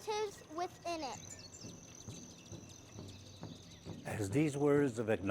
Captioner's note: birds chirping and drums beating